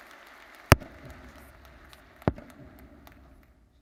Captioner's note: audience cheers and applauds; stick bangs